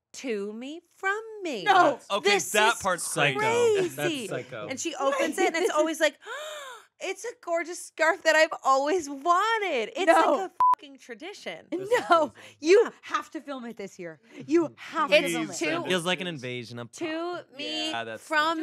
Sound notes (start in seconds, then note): 6.7 gasps; 10.4 beep